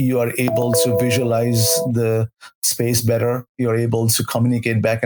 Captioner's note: computer dings